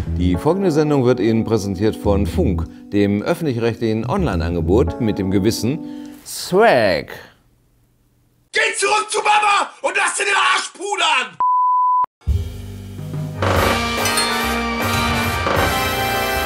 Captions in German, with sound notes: Die folgende Sendung wird Ihnen präsentiert von Funk, dem öffentlich-rechtlichen Onlineangebot mit dem gewissen Swag. Geh zurück zu Mama und lass dir den Arsch pudern! (Piepton) (Lockere Musik)